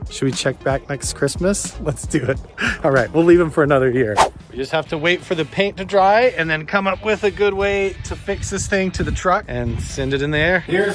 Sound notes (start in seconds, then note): 4.1 swooshing